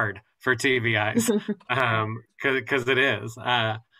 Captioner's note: laughter